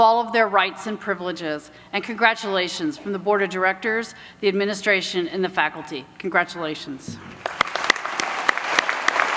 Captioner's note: applause